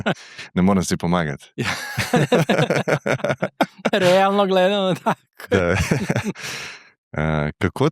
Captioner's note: laughs; laughs